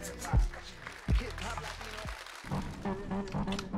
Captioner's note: applause; upbeat music